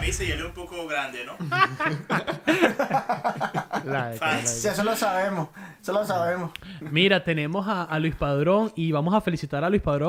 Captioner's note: laughter